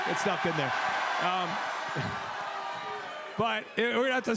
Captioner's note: crowd cheers